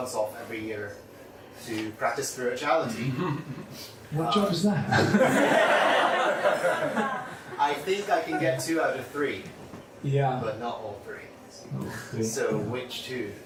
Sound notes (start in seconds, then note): 4.9 laughter